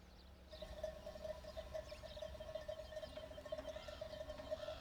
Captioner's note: cowbell ringing